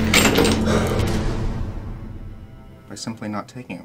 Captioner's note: chains clanking